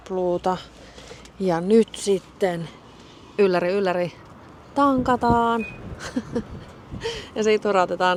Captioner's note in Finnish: naurua